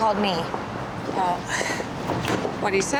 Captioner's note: sighs